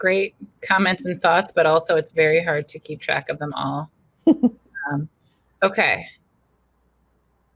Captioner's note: chuckles